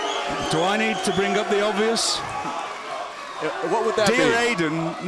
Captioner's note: cheers & boos